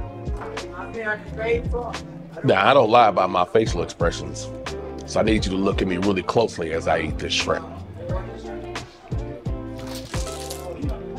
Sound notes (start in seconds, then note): 0.9 employee #1 speaks faintly; 8.2 upbeat music